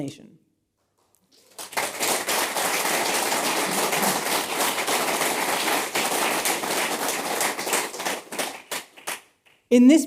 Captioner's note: applause